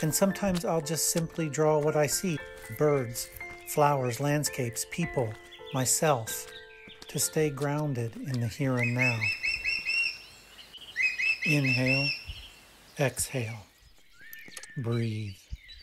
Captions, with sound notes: and sometimes I'll just simply draw what I see, birds, flowers, landscapes, people, myself to stay grounded in the here and now. (birds chirp) Inhale, exhale, breathe.